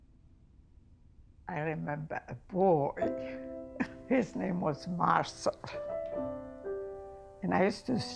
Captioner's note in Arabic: يضحك